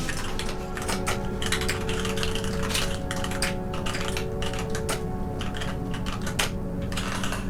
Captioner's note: typing sounds